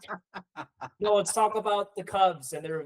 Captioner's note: laughing